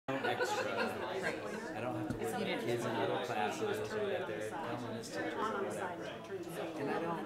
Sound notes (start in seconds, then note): 0.1 background chatter